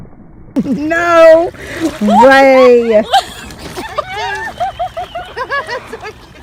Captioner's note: people laughing